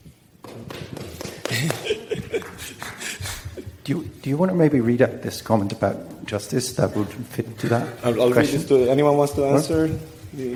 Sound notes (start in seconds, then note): 1.2 audience member applauds and laughs